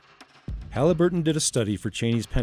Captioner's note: voiceover